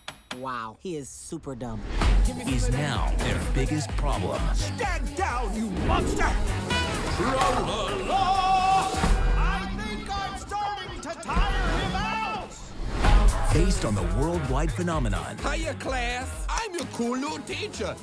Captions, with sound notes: Wow, he is super dumb. ...is now their biggest problem. Stand down, you monster! [honk] Tra-La-Laa! I think I'm starting to tire him out! Hiya, class! I'm your cool new teacher!